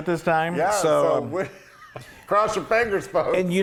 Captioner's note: laugh